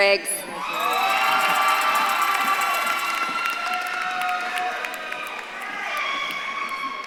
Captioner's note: audience claps and cheers